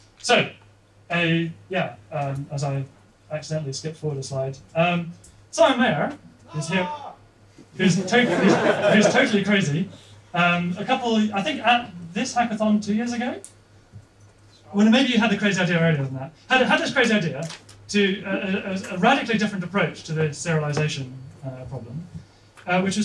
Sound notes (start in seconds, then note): 7.9 laughter